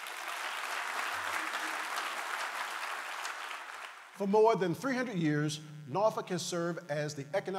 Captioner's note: applause